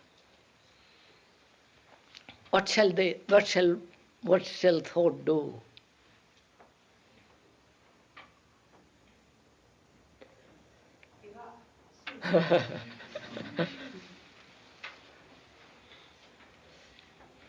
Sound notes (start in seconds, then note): 12.2 laughter; 12.2 K laughs